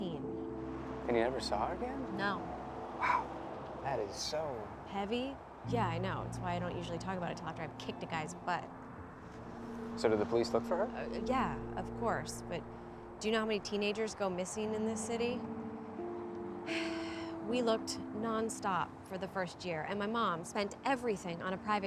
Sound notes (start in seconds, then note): 16.7 sighs